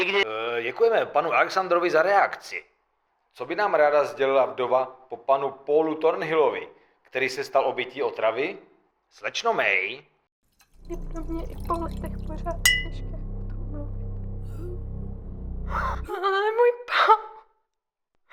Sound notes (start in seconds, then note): 10.8 liquid pouring, dramatic music, clink, gasping for air; 17.0 gasping for air